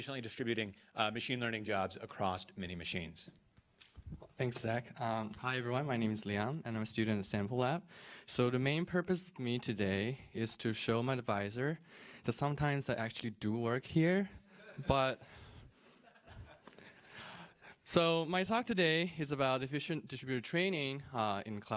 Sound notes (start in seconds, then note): 15.9 laughter